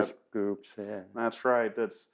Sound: laughs

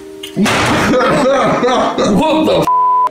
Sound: laughing

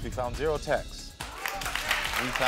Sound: audience applauds

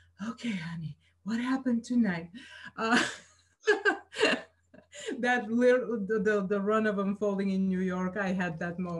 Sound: laughs

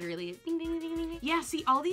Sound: makes bell twinkling noises

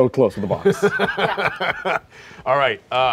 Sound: laughing

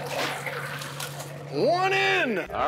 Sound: net splashing in water

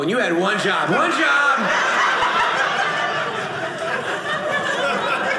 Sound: audience laughing

